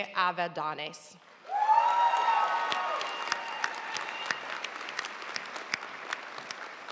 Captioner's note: audience cheering and applauding